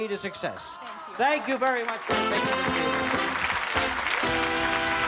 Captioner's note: applause